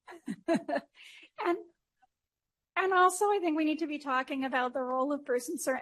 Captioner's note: laughter